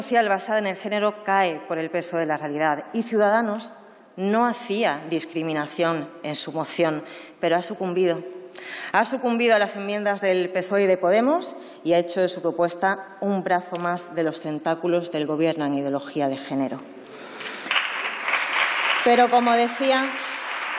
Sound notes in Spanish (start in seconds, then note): 17.4 Aplausos